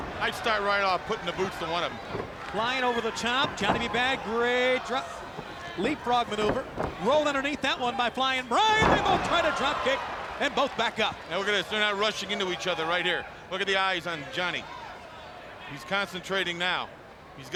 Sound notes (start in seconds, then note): 3.0 footsteps plodding; 7.3 footsteps plodding; 10.7 body thudding